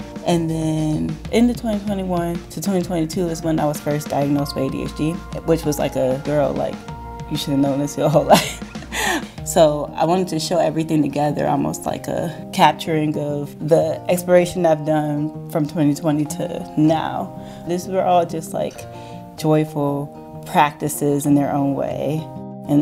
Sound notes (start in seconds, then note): 8.3 chuckling